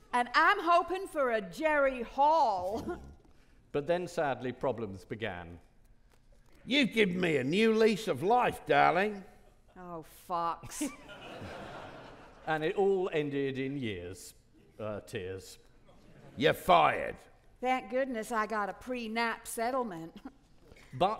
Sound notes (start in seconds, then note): 10.8 audience laughing